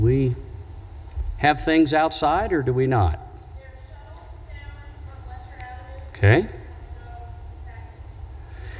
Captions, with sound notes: Do we? Have things outside or do we not? (speaking faintly in background)